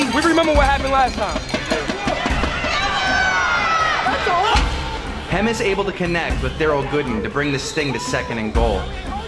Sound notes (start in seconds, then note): 1.5 fans and Crowd Scream